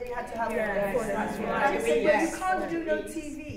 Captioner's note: murmurs of agreement